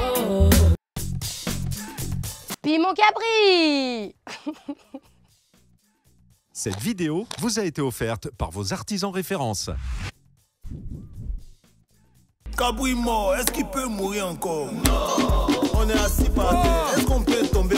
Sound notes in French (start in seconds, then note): 4.2 Rire